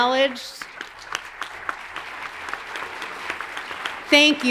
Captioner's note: audience applauds